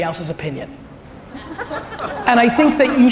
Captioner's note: audience laughter